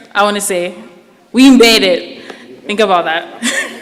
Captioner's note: laughs